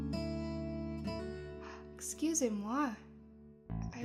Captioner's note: gasp